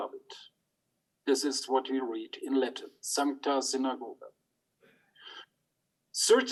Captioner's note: speaks in Latin